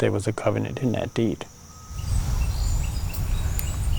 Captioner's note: birds chirping